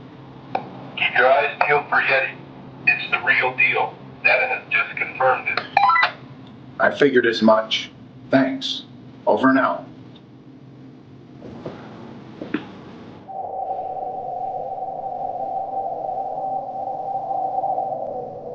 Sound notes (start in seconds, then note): 4.5 comm beeping; 13.2 tense music; 13.4 wind howling